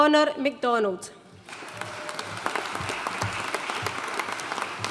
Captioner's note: audience applauding